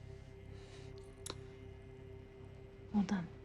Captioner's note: scissors snipping